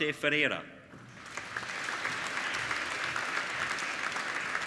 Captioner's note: applauding